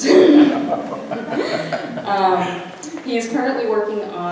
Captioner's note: audience laughs